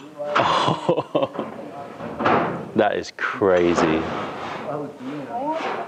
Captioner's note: laughter